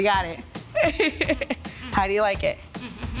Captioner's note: laughing